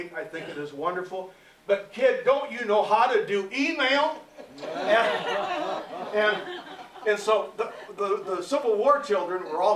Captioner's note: laughter